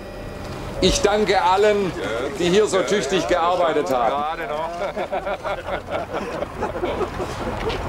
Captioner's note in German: Gelächter